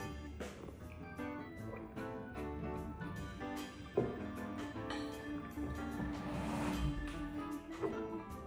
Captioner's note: laughs